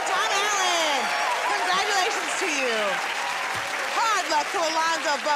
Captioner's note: cheers and applause